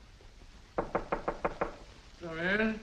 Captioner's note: door knocking